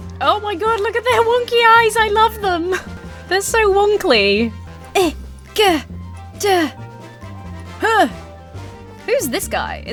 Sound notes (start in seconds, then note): 6.3 grunts and groans